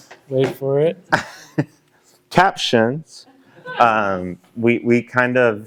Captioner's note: laughter